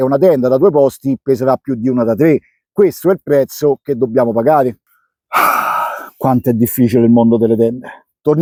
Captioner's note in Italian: sospiri